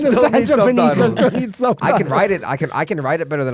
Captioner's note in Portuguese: risos